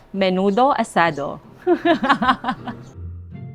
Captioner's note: laughs